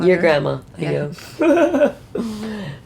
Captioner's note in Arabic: يضحك